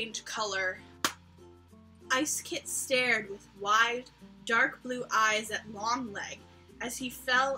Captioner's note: smack